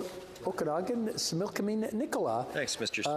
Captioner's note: speaking French